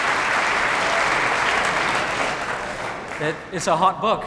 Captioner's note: audience clapping continues